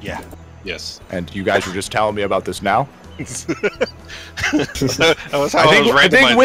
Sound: laughter

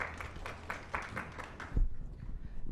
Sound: clapping

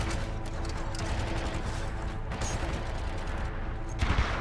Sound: none

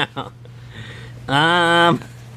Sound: laughs

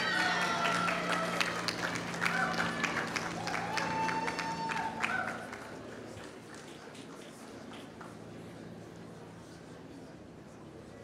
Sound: applause

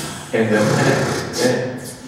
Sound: sputtering and hissing

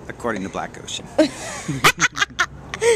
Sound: laughter

